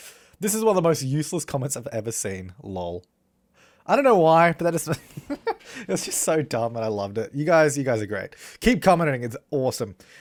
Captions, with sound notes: "This is one of the most useless comments I've ever seen lol." I don't know why, but that just [laughter] That's just so dumb and I loved it. You guys, you guys are great. Keep commenting; it's awesome.